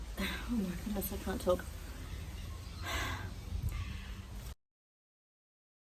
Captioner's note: sighs; sighs deeply, then takes a breath